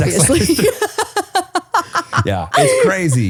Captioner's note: laughing